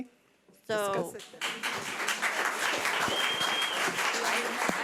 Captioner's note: audience applause